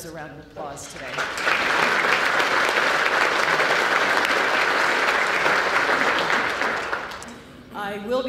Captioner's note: applause